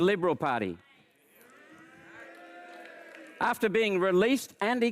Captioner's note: audience groans